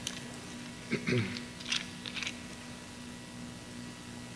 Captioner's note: clears throat